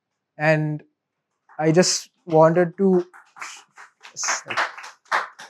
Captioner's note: participants applause